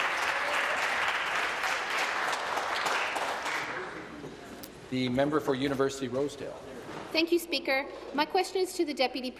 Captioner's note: applause